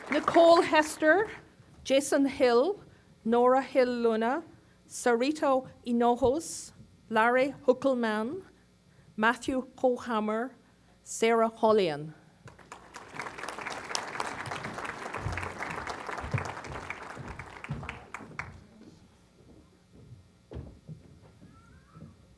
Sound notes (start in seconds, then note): 12.4 applause